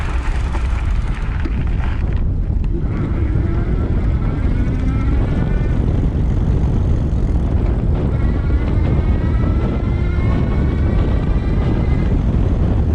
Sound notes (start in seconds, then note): 4.0 wind rushing; 8.5 bicycle electric motor roaring